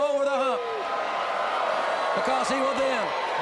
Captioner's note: crowd cheering